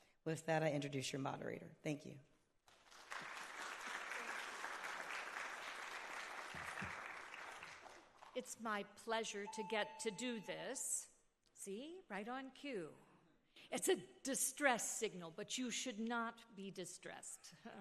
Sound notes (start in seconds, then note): 2.8 audience applauding; 9.4 beeping